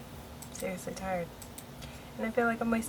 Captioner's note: clicks mouse